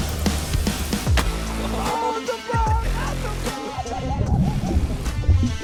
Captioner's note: water splashing; upbeat dramatic music